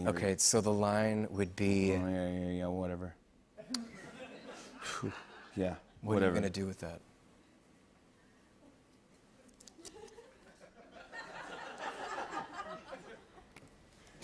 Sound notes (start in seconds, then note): 4.5 exhales sharply; 10.3 light laughter